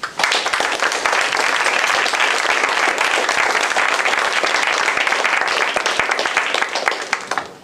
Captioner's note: applause